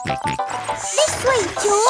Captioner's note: george snorts